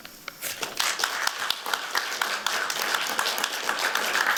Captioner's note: applause